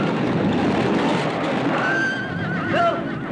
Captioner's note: yelling